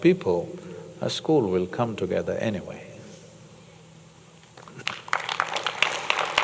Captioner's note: applause